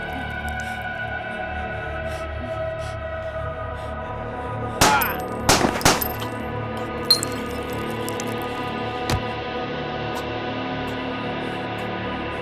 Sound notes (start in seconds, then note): 0.2 suspenseful music; 4.8 gun firing